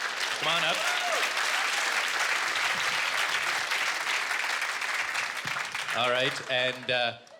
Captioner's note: audience clapping